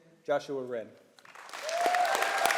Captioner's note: applause